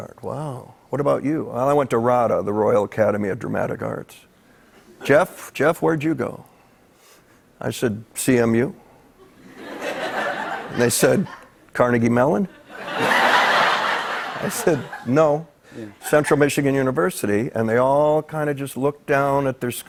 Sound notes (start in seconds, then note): 9.3 laughter